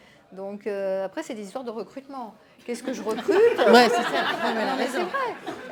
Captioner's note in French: rires